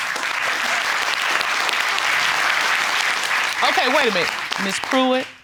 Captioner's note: courtroom applauding